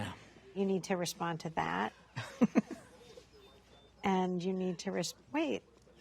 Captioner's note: Fox laughs